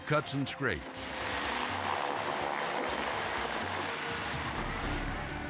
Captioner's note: helicopter buzzing